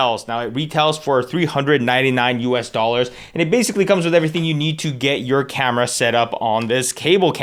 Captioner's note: none